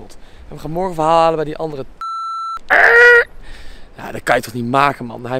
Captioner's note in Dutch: piep